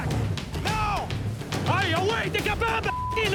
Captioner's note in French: bip